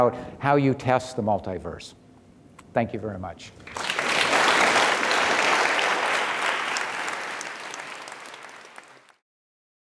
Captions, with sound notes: how you test the multiverse. Thank you very much. (audience applause)